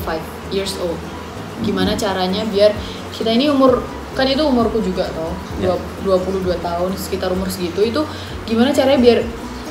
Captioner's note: translating in Indonesian